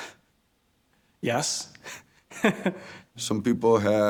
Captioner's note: laughs